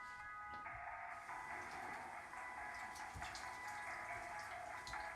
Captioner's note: water trickling